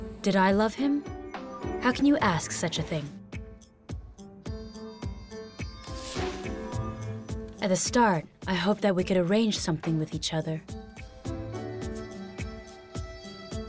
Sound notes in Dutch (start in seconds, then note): 4.5 vrolijke muziek gaat verder; 5.8 lucht suist